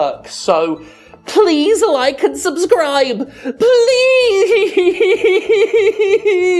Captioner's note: sobbing